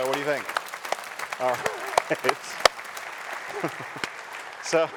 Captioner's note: audience applauds